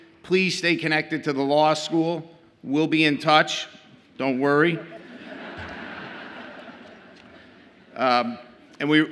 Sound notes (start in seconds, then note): 4.6 audience laughs